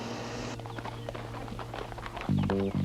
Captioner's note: hooves clopping; upbeat instrumental music